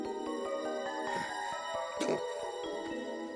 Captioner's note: woman and Duckman moaning passionately; groans